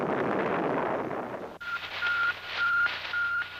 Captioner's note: beeping